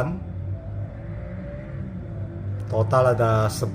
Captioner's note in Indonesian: suara mesin motor